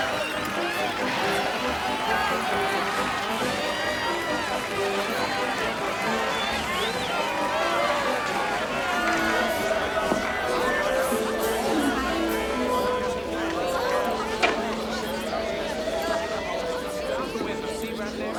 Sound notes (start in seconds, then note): 12.2 faint classical music; 12.2 townsfolk chatter